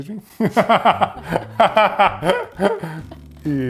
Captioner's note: laughs